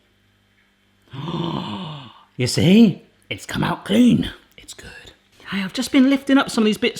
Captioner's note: gasping